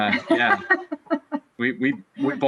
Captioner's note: laughing loudly